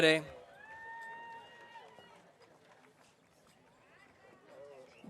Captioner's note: audience cheering